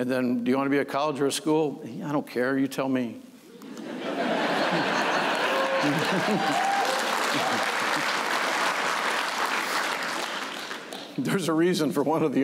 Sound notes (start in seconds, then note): 3.7 laughter; 7.1 applause